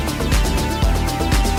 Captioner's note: none